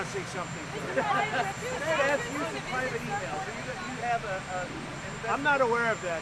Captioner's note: laughter